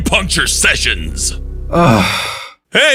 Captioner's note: sighs